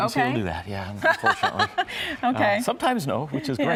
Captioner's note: laughs